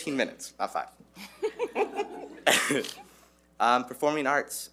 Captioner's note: board members laughing